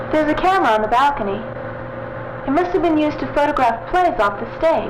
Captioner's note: none